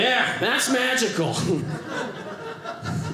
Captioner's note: audience laughing